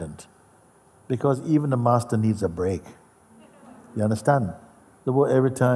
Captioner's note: Lachen